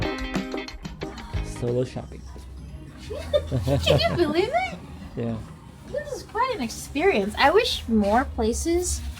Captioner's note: laughter